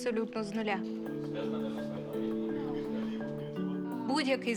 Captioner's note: team chattering